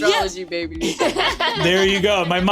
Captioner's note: laughs